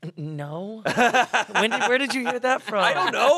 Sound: laughs

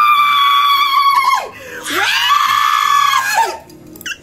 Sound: gay screaming

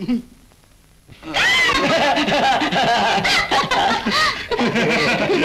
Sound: both Laughing

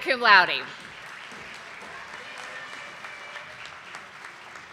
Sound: audience applauding

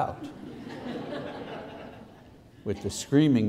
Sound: laughter

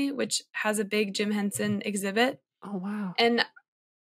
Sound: none

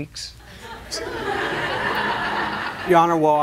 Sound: laughter

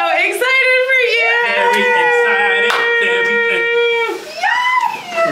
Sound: cheering

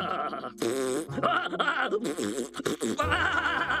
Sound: chuckling; blowing raspberry

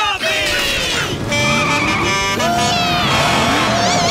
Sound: honking

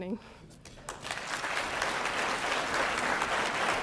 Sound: applause

